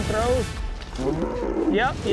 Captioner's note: bull bellows